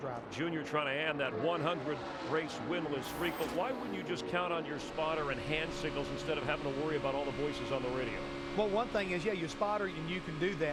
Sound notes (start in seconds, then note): none